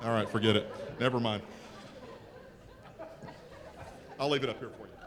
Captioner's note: audience laughter